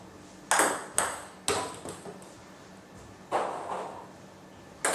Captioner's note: balls ping pong hitting continues